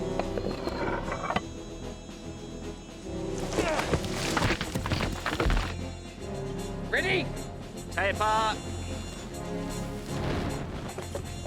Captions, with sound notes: (thudding) - Ready? - Taper!